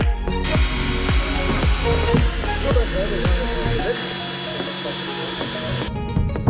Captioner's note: drilling noise